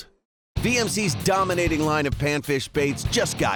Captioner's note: voiceover